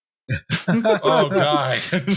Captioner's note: laughter